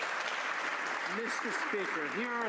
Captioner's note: some Applause